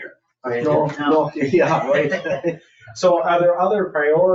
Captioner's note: people chattering